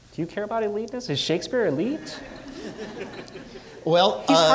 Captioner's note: audience laughing